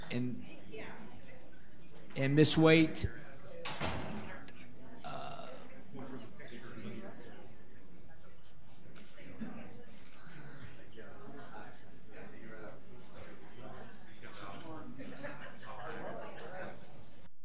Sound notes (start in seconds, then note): 5.3 attendees chattering